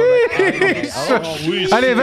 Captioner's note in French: brouhaha